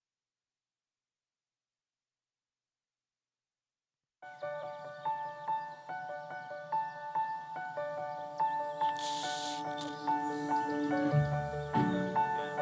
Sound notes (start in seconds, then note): 4.2 gentle music; 4.3 birds chirping; 8.8 tapeline hisses